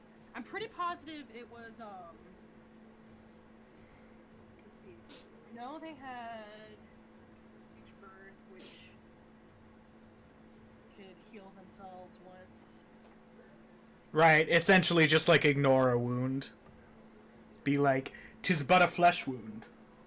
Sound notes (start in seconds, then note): none